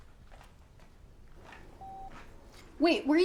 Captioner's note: phone beeping